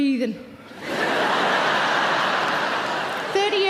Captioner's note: audience laughing loudly